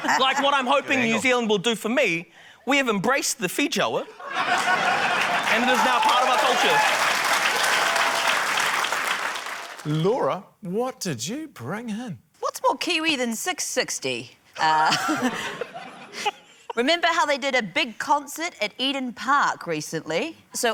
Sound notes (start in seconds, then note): 0.0 guy laughs; 7.8 cheering, applause; 15.1 scattered laughter